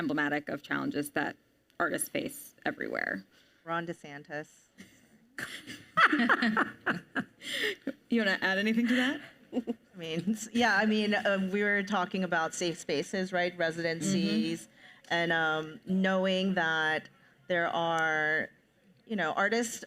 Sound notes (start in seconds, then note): 5.4 panelists laugh